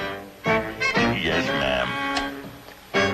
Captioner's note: blinds clicking